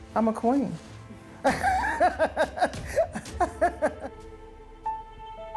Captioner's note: laughing